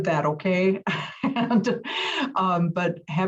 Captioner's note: laugh